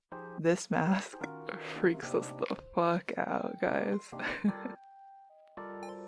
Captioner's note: laughs